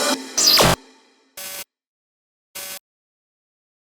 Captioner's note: machine buzzing